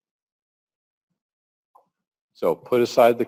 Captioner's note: pause